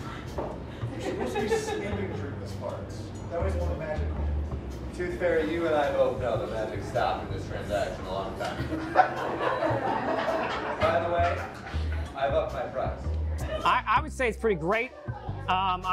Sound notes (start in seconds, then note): 8.6 audience laughs